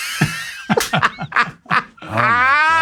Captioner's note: cast and crew laughing